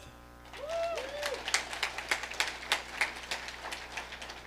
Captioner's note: audience applauding